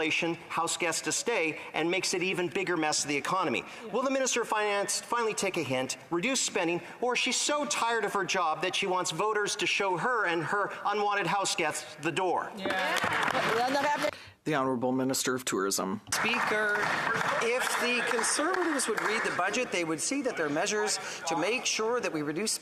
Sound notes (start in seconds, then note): 16.1 applause; 17.6 speaking in French